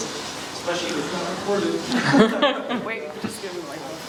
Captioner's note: laughs